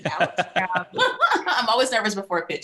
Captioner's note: laughing